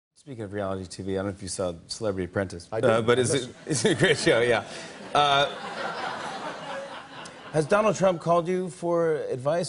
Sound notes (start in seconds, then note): 5.1 laughter